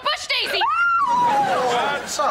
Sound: screaming

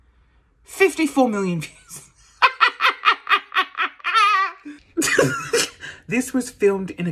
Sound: laughs hysterically

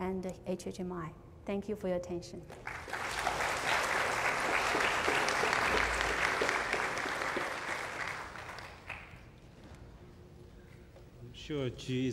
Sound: applause

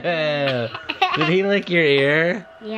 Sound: laughing

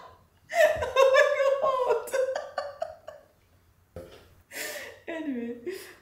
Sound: laughing

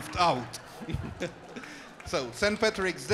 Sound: audience laughs and applauds

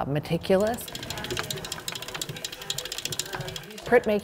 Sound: metal gears click

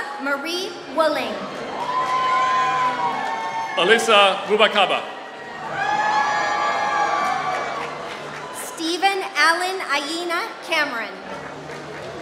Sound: applause

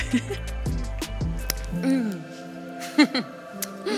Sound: laughing; laughing

